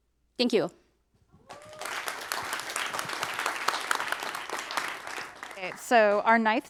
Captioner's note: applause